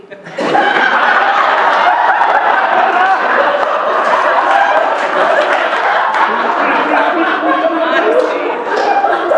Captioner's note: laughter